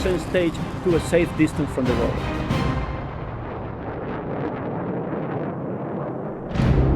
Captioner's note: music crescendos and ends; thunderous rockets echo; wind in background; music-final orchestra hit over dark drone